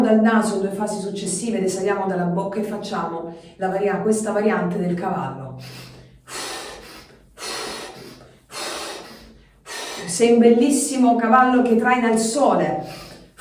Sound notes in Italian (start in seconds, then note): 9.1 sbuffare; 9.6 sospiri